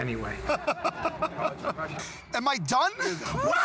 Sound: laughter

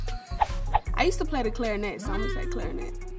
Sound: air whooshing; clarinet playing

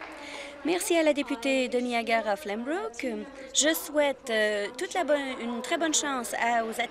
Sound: applause

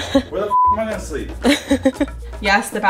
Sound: beep; laughing

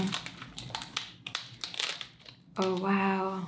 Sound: book crackling

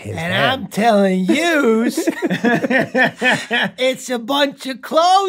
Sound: rob and glenn laughing

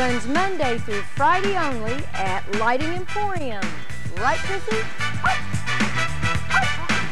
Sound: barking

